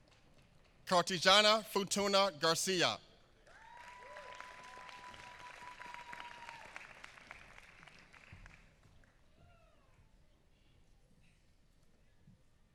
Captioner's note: applause